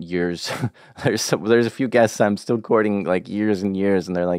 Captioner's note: laughs